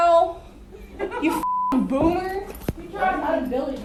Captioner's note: beep; background chatter